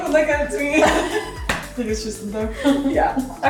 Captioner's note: laughing